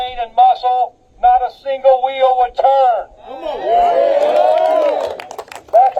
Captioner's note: applause